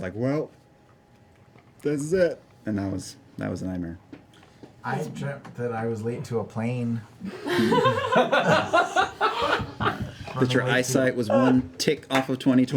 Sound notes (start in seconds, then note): 7.3 laughter